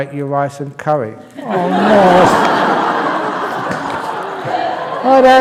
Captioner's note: laughter